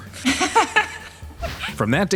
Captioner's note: laughs